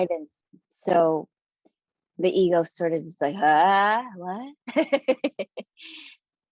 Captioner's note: chuckling